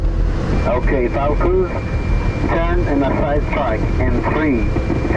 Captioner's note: pilots speaking over radio